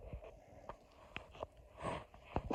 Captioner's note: microphone crackles